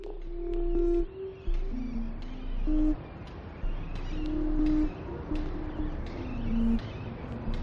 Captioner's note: birds singing